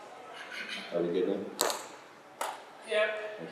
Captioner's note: crackling